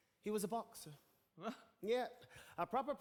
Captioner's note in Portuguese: Charlie laughs